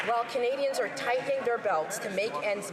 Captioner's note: some Applause